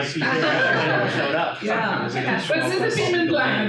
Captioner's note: laughing